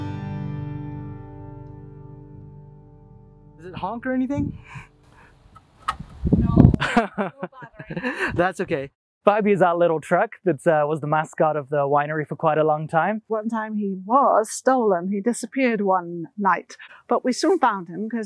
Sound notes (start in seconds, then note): 6.7 laughs